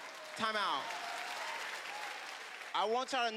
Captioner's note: applause